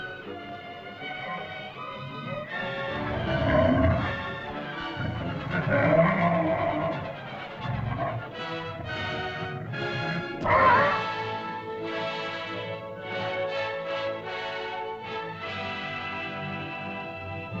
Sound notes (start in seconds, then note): 0.0 dinosaur moans & growls; 0.0 dramatic music; 1.1 dinosaur growls; 2.4 dramatic music; 10.3 dinosaur cries out; 12.2 triumphant music